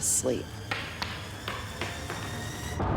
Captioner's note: rock clanking